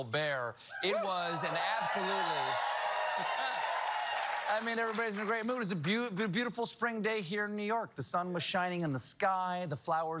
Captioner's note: cheers and applause